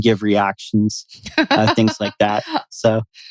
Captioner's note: laughs